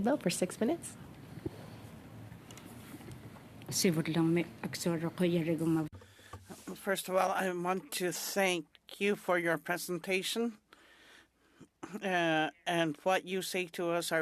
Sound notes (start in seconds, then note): 8.2 speaking french